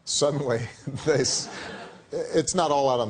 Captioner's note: laughter